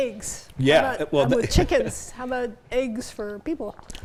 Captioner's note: chuckles